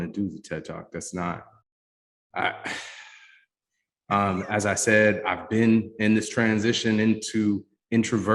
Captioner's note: sighs